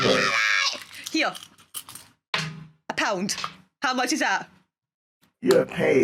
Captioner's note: thunk